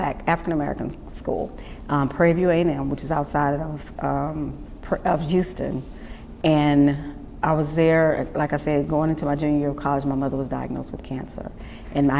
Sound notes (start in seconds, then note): none